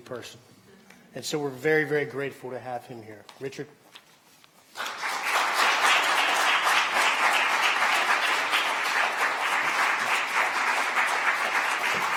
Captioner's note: applause